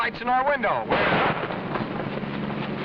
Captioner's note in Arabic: انفجار!